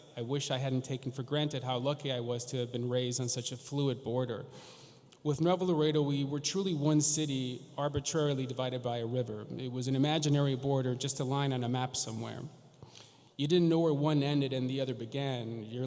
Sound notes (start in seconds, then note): none